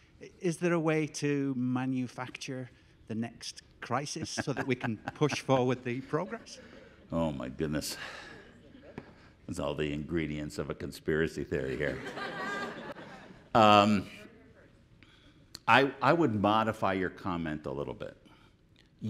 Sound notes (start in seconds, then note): 11.6 audience laughing